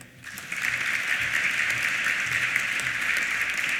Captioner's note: applause